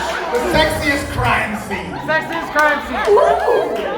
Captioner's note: crowd